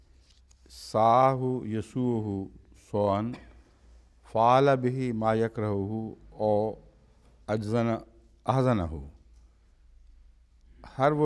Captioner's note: Arabic